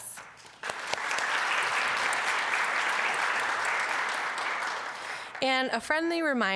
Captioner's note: applause